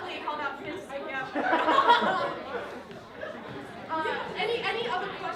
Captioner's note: laughter